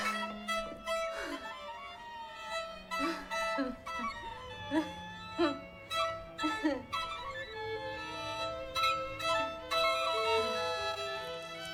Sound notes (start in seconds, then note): 4.6 laughs